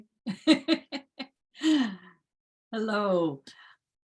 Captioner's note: giggling happily